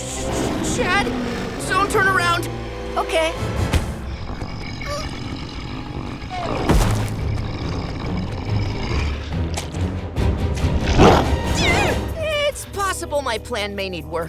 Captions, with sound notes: C-Chad, don't turn around. Okay. [grunting] It's possible my plan may need work.